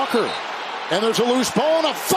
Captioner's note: whistle blowing